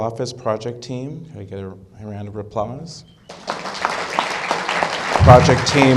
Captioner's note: applause